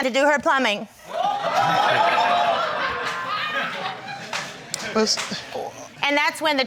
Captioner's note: crowd gasping